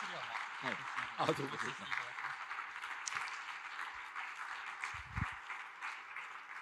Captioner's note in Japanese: 大歓声; 拍手; 拍手